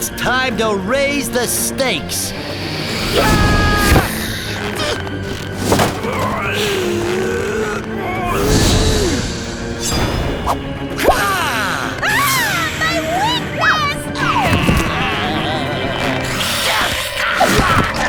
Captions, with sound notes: It's time to raise the stakes. Aagh! Aagh! My weakness! [moaning]